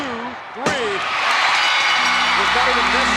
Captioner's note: audience cheering; bell rings